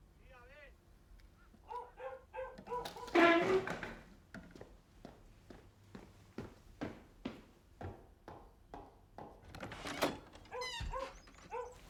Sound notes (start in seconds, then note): 1.6 dog barking continues; 9.4 door opens; 9.5 dog barking